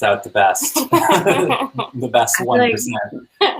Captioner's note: laughing